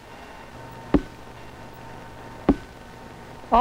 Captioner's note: tapping